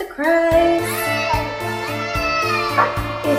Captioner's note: baby cries